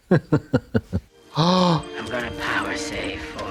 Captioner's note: Katya hee-hees; Trixie gasps